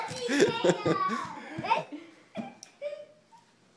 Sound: laughter

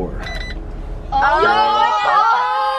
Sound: electronic beeping; cheering excitely

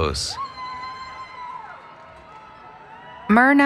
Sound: cheering

